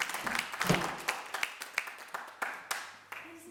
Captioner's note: door slamming